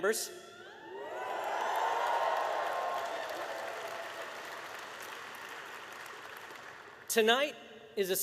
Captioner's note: applause